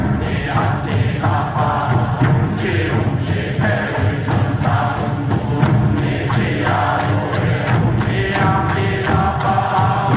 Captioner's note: applause